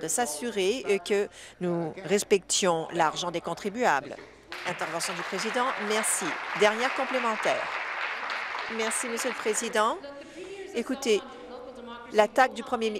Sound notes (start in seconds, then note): 7.7 applause